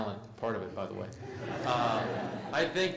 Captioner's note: laugh